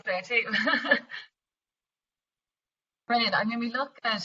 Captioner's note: laughs